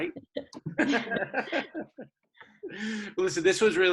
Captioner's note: laughter